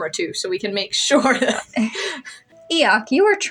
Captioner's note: laugh; quiet Laugh